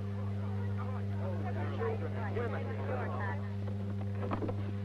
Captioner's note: people murmuring